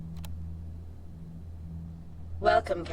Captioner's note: button clicking